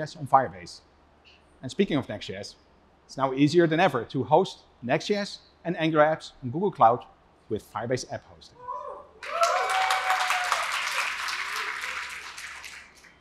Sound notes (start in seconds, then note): 9.2 cheering; 9.2 applause